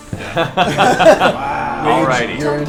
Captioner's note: all laugh